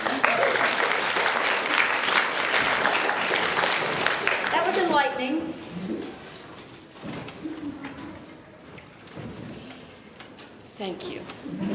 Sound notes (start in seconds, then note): 0.0 applause